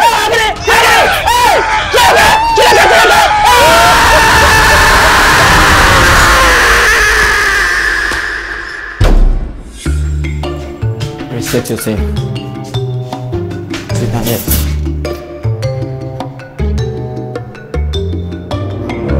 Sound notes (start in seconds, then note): 3.3 screaming